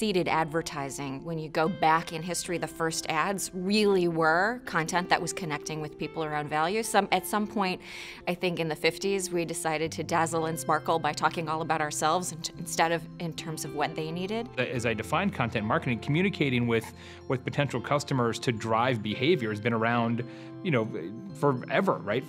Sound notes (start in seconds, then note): 0.0 voiceover; 14.7 voiceover